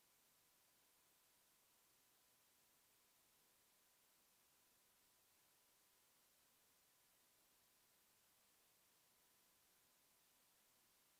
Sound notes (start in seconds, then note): none